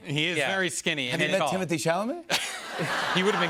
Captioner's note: laughter